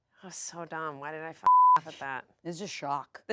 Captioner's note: beep